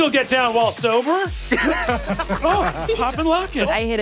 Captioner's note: players laughing